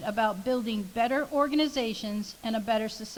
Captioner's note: none